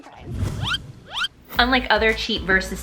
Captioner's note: whizzing